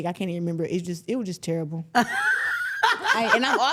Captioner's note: interviewer laughing